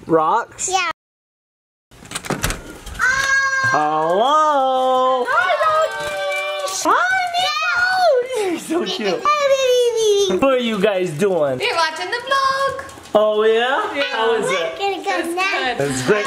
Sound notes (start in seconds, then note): 2.1 door knob clicking; 3.0 child joyfully screaming; 9.1 child play screaming